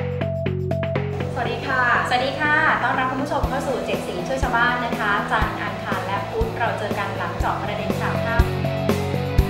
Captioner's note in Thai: เสียงผู้ประกาศข่าว